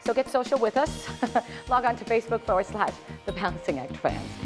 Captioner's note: laughter